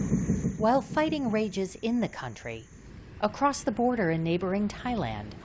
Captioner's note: voice-over